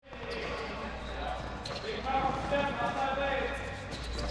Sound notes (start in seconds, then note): 0.0 background chatter